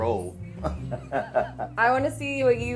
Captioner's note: laughs